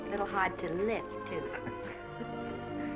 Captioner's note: laughs